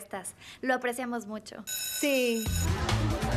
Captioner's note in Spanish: timbre sonando